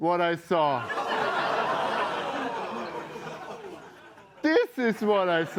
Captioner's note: laughter